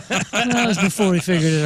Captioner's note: laughing